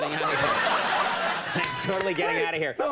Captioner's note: audience laughing